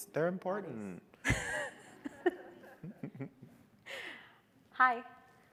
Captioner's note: all laughing